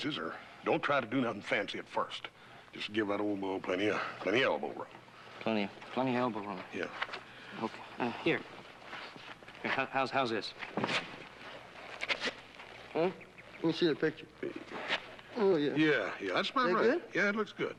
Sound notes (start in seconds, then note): none